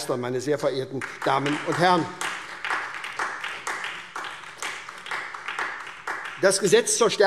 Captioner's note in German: Beifall SPD und DIE LINKE